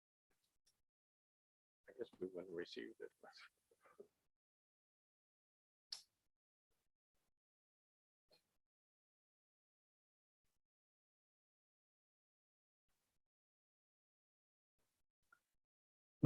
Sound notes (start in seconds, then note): 1.9 muffled conversation